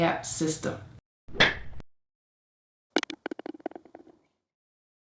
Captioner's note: ball trickling